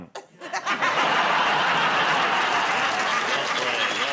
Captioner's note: laughter, applause